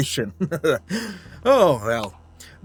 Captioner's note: laughs